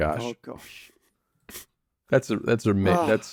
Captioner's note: laughs